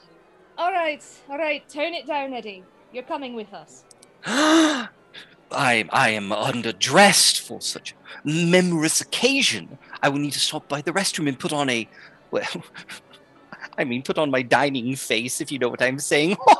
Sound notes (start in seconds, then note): 4.2 gasps